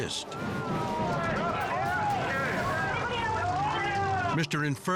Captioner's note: people shouting and cheering